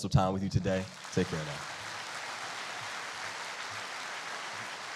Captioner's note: applauding